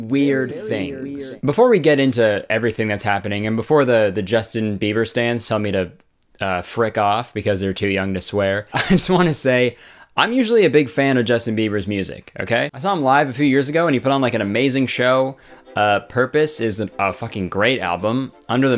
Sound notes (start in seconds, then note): 0.6 echo Sound effect